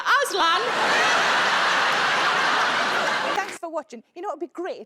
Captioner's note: audience laughing